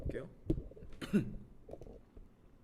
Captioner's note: cough